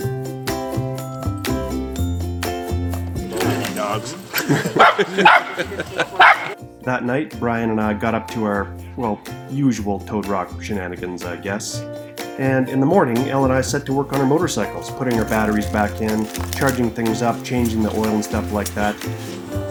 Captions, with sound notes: Too many dogs. (laughing) (dogs barking) - That night, Bryan and I got up to our, well, usual Toad Rock shenanigans, I guess. And in the morning, Elle and I set to work on our motorcycles, putting our batteries back in, charging things up, changing the oil and stuff like that.